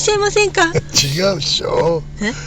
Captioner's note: laughs